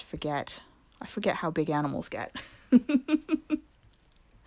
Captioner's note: laugh